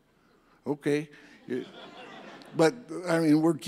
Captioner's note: audience laughs